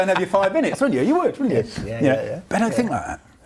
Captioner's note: laughs